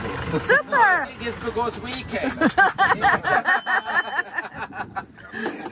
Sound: laughter

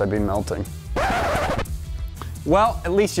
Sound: record screeching

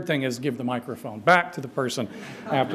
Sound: laughter

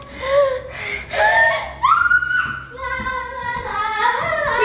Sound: screaming

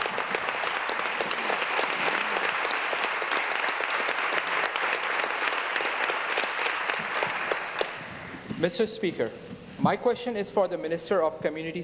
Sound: applause

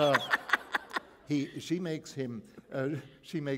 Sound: laughter

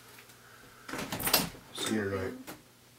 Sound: door opens

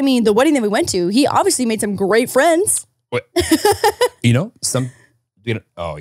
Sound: laughing

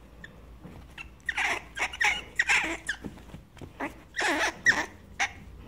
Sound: squirrel squeaks

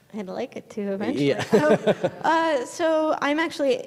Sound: laughing

